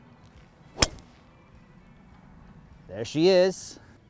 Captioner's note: hits ball